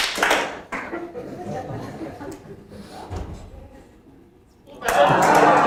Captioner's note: several claps; audience laughing; audience laughing and clapping